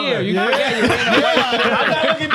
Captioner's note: laughing